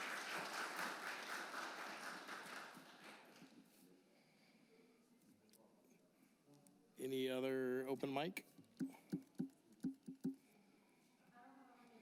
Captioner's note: applause